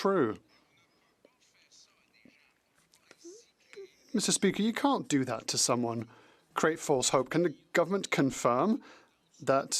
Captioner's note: speaking French